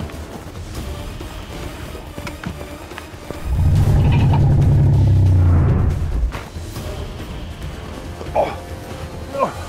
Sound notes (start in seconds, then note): 3.4 dinosaur growls; 6.8 suspense music